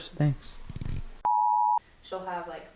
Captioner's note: extended beep